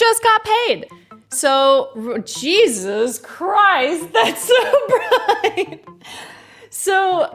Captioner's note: laughs